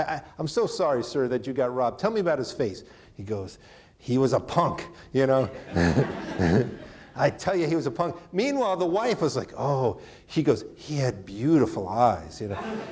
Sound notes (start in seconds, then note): 5.3 chuckles; 5.3 audience laughing